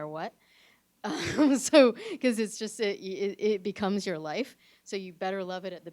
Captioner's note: chuckles